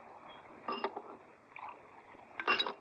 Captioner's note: glass clanks